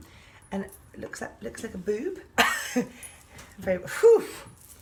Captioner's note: laughing